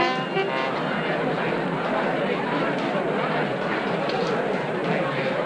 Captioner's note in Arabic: الناس يتحدثون بصوت خافت